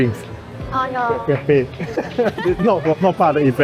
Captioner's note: laughs